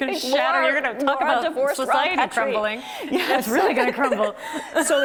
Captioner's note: both laughing